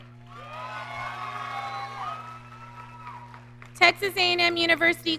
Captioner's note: audience cheering